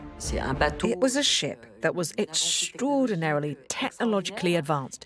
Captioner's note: voiceover